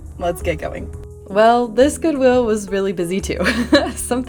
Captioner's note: laugh